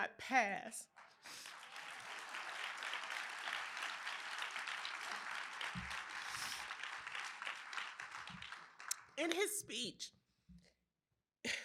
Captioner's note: applause